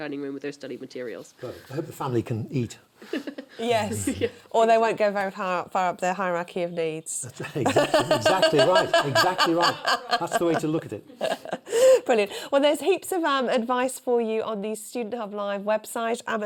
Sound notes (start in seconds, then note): 7.4 laughter